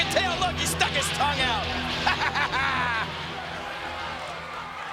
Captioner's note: laughs